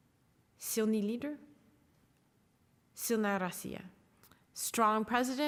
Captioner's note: speaking Russian